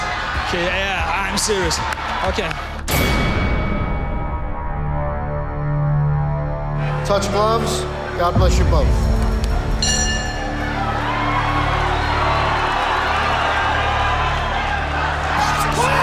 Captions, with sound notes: -(CROWD CHEERING) -"Yeah, I'm serious." Okay. (BELL RINGS) Touch gloves, God bless you both. (BELL RINGS)